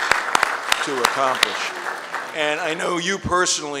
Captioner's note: applause